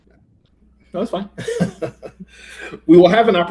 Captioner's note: chuckles